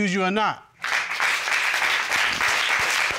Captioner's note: applause